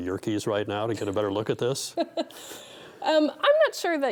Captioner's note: laughing